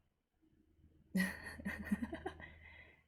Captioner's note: laughs